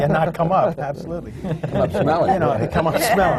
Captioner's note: laughter from the panel